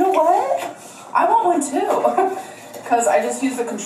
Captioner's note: laughs